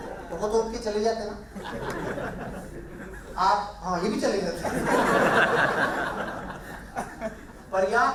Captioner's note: laughter